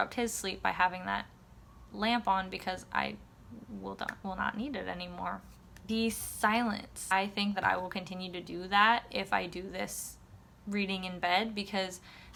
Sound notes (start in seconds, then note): none